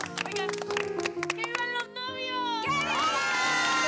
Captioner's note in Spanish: aplausos